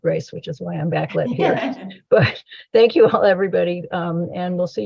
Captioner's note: laughter